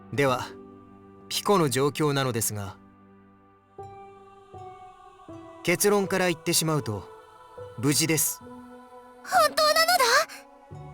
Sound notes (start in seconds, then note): 4.5 silence